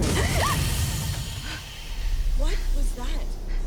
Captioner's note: both gasp